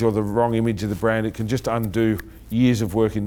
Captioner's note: snapping